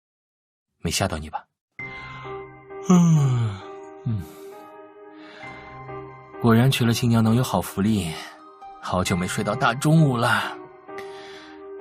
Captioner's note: yawn